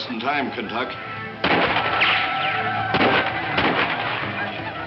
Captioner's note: incessant gunshots